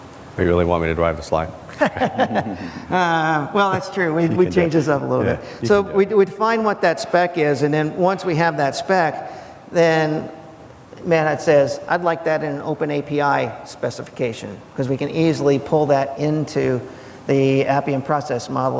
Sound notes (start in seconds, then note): 1.7 laughs